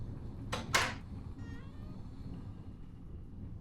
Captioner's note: door clicks